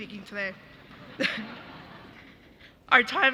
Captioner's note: audience laughing